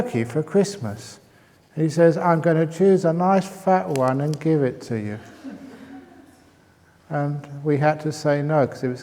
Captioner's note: laughs